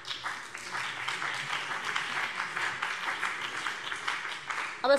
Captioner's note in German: Beifall BÜNDNIS 90/DIE GRÜNEN und vereinzelt CDU